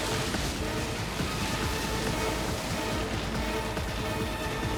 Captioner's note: suspenseful music; wood creaking; waves roaring; suspenseful music continues